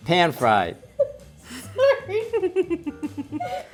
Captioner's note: giggles